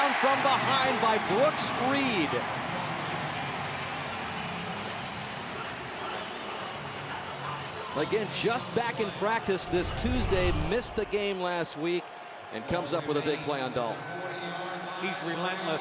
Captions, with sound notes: Dalton chased down from behind by Brooks Reed. [pa announcement] Again, just back in practice this Tuesday, missed the game last week, and comes up with a big play on Dalton.